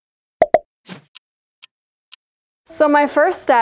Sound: clock ticking

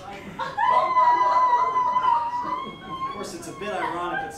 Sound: laughter

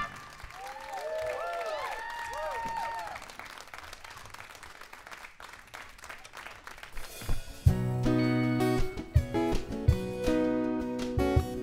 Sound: applause

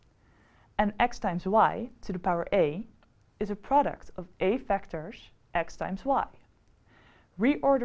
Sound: click

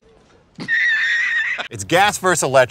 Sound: laughter

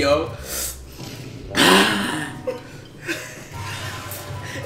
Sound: gasping

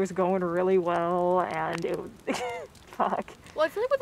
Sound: laughs

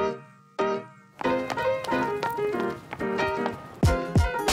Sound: heels clicks; upbeat music

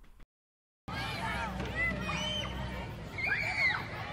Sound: kids clamoring

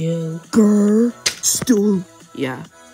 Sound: paper slap

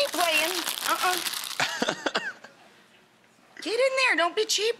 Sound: laughs

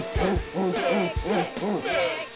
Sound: all chanting "mix it"

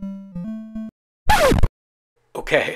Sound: record scratch

